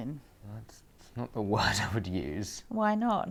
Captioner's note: Harry laughs